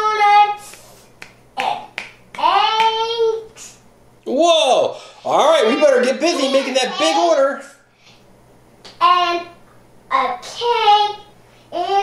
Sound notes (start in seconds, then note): 1.1 fingers snapping